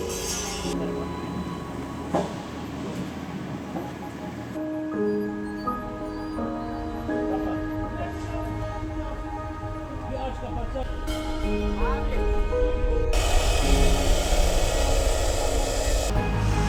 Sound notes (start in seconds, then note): 1.3 reflective music; 8.5 people chattering; 11.5 reflective music continues; 13.1 saw buzzing; 16.4 reflective music